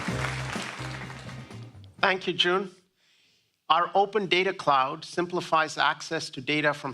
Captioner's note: applause